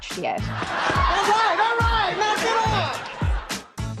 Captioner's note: studio audience laughter